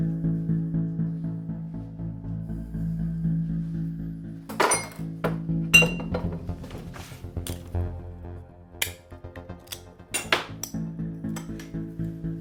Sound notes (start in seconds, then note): 4.5 bottles clinking